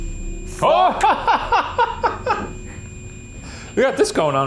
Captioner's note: both exclaiming